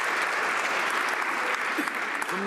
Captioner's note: some Applause